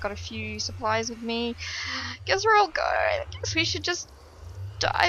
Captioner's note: sighs